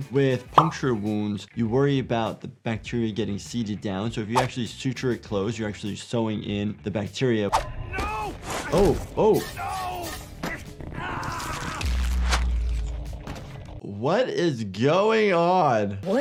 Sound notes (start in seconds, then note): 10.9 victim screaming